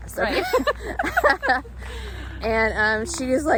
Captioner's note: both laugh